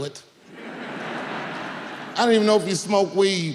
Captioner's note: audience laughing